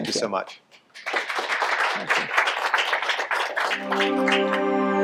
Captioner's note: applause